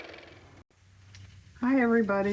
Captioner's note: car motor